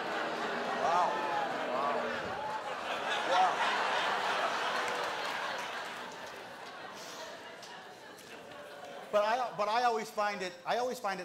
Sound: crowd booing

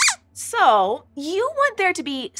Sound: squeaks squeaks

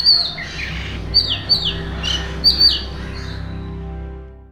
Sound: Oriental magpie-robin call

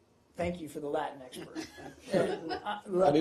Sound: laughter

